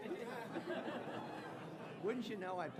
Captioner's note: audience laughing